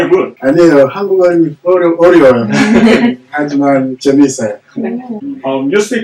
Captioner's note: speaking Korean